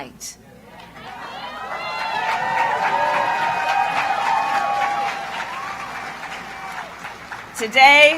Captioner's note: applause